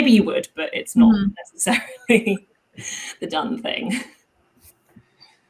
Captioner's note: giggles